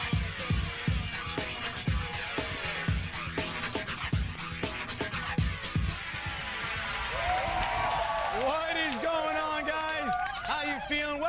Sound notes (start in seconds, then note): 6.1 cheering and applause